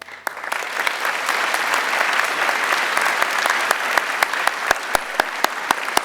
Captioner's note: applause